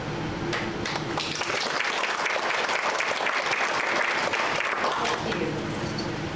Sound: applause

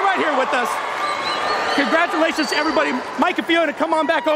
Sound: cheers and applause

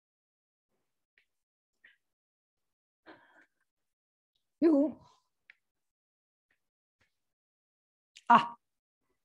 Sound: silence

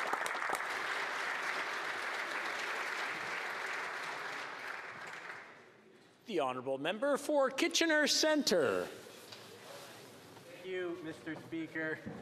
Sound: applause

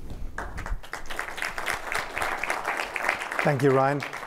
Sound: applause

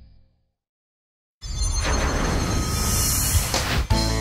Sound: whooshing; country music

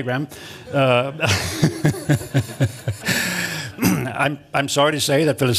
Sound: laughter

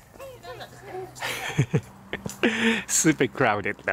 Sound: chuckles

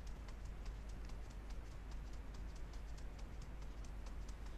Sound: fingers tapping softly

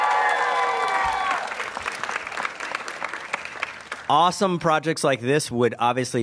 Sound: applause

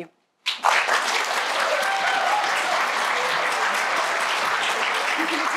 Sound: applause; cheers

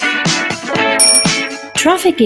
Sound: bicycle bell

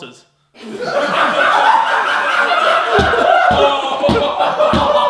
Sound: everyone laughing

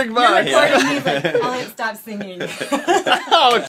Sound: laughs

